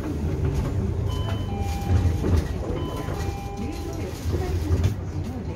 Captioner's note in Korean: 하차벨 소리